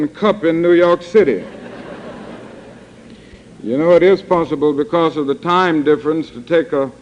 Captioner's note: laughter